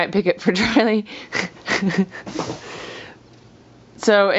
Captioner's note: laughing